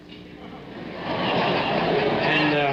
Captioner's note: audience laughing